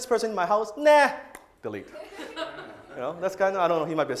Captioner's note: audience laughs